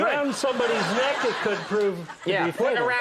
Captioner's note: audience laughs